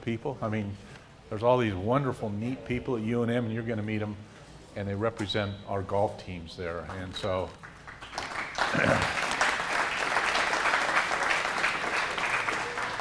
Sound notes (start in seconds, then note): 8.6 cough; 10.2 applause